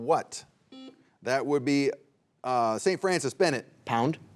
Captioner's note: buzzer beeps